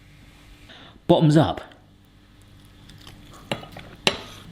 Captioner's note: chewing